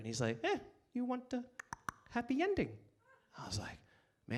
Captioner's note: clicks tongue